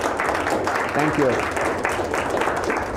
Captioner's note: audience Applause